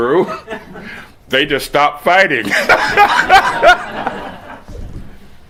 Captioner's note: laughter